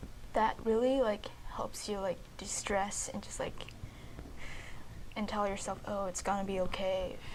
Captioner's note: breathe out